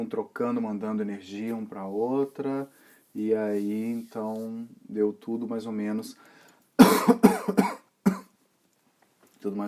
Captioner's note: coughs